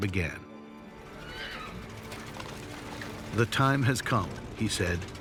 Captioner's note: horse whinnies